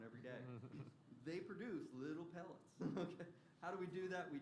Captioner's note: laughter